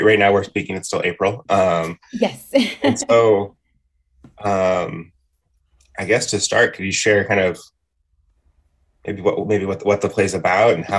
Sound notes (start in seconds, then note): 2.1 laughs